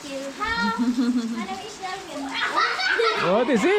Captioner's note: girls laughing in the background